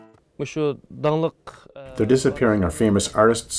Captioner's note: speaking foreign language